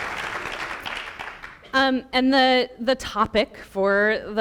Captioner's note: applause